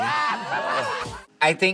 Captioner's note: audience laughing